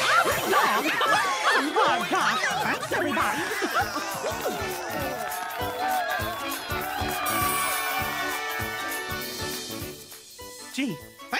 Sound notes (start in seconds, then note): 0.7 cheering; 4.8 cheers and applause